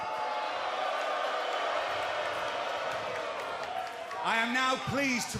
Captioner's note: cheers and applause